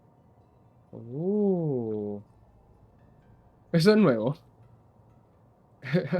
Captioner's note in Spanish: risas